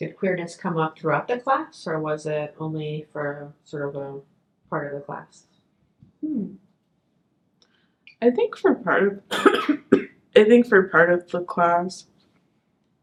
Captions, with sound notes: Did queerness come up throughout the class or was it only for sort of a part of the class? Hmm. I think for part of... (coughs) I think for part of the class.